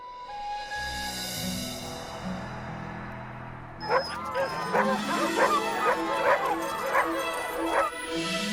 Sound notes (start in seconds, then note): 0.6 wind blowing; 3.8 dogs barking; 5.5 bright music